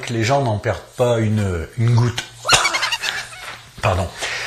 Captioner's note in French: petit rire